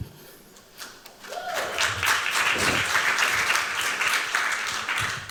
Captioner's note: applause